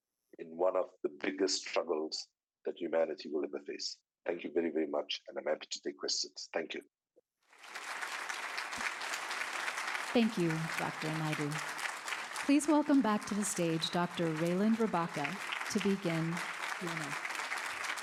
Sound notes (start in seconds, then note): 7.3 audience applauding